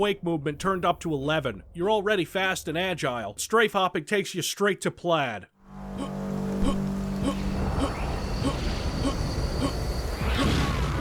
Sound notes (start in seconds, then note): 7.2 Dusk Dude hups